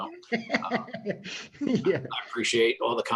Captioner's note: laughing